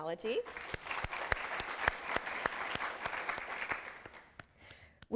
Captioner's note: applause